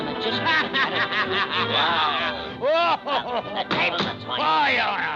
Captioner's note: vizier cackling